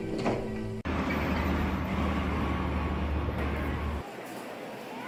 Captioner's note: engine rumbling